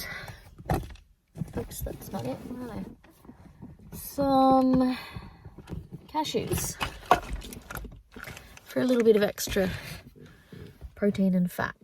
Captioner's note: clunking